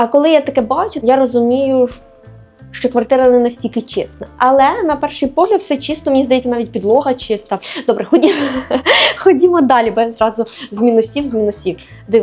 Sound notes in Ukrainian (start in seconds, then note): 8.2 сміх; 9.0 хекання